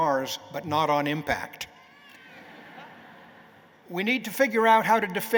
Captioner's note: laughter